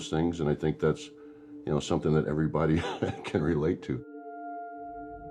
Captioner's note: chuckles